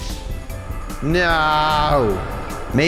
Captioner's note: voice echoes